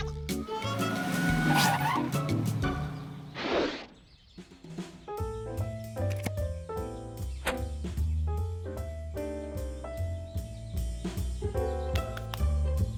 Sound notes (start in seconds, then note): 0.3 screeching